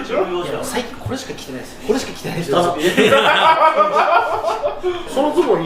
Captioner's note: laughs